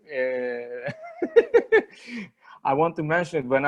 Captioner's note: laughs